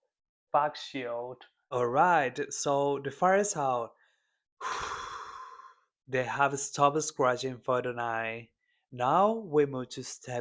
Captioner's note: sighs and gasps